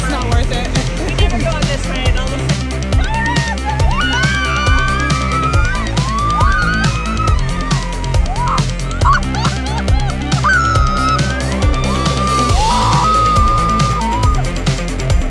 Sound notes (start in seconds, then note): 0.0 laughs; 3.9 screams; 8.6 laughs; 10.7 screaming